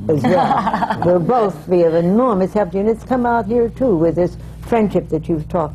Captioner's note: laughter